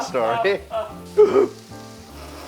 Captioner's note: laughs